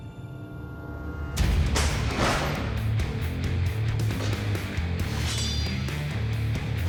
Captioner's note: blade impact sounds